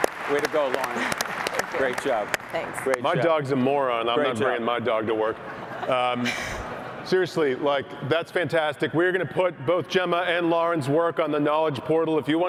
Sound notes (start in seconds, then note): 0.0 applause; 5.4 laughter